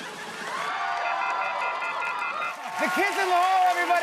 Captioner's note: busy signal beeping